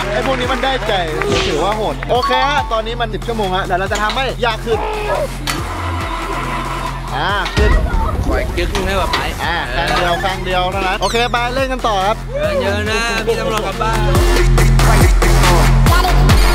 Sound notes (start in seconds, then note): 5.4 machine moving; 14.3 upbeat music playing